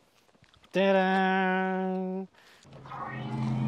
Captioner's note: self-made sound effect